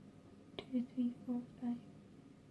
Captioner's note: quietly